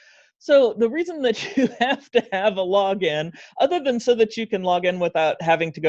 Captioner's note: laughs